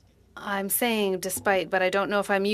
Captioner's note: speaking French